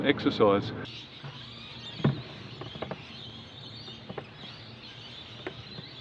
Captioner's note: seagulls squarking overhead